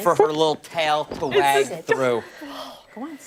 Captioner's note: laughter